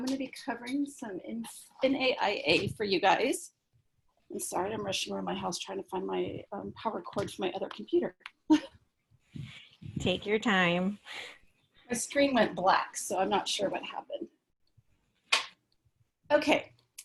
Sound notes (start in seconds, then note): 8.5 laughter